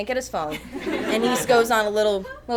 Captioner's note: audience chuckles